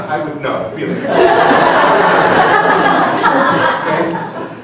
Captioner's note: laughing